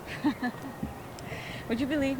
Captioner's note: laughs